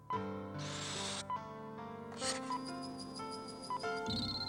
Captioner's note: electronics beep